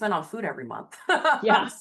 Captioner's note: laughs